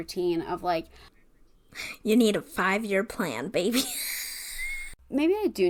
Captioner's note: wheeze laughs